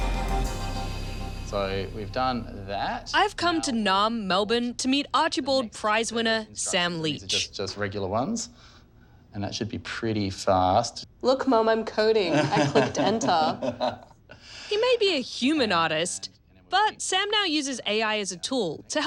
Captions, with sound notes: So we've done that. I've come to Naarm Melbourne to meet Archibald Prize-winner Sam Leach. These are just regular ones. And that should be pretty fast. Look, Mum, I'm coding. (LAUGHS) I clicked 'enter'. He may be a human artist, but Sam now uses AI as a tool